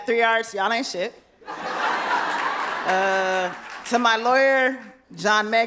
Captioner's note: laughter